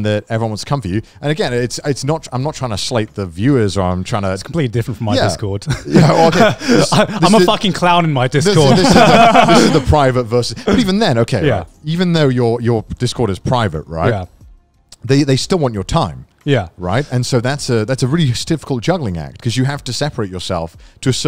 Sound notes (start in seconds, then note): 8.4 laugh